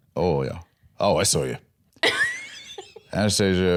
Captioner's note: laughs